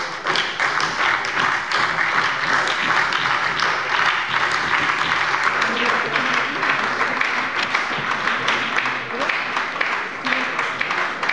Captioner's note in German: Beifall bei der SPD